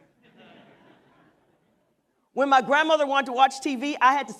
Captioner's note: laughter